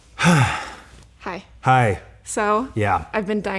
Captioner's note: sighs; laughs